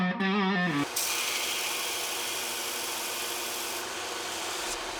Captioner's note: machine buzzing